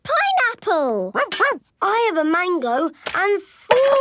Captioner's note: barks